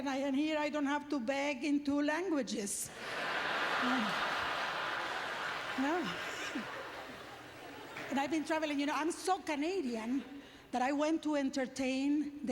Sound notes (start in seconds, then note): 2.9 audience laughter; 5.9 applause